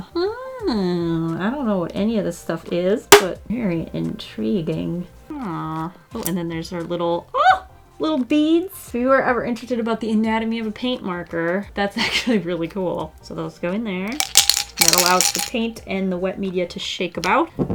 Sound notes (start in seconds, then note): 14.0 beads drop in